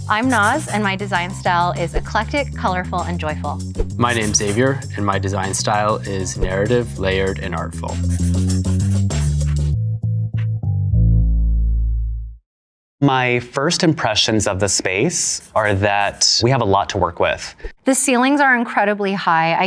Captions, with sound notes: - I'm Noz and my design style is eclectic, colorful, and joyful. - My name's Xavier and my design style is narrative, layered and artful. [pencil scribbling] [jazz music] - My first impressions of the space are that we have a lot to work with. - The ceilings are incredibly high.